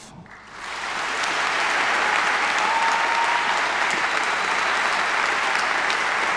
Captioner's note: people clapping; people cheering